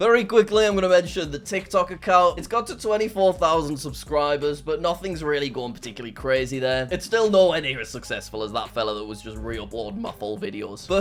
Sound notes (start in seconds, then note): none